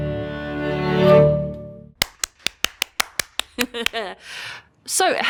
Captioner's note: clapping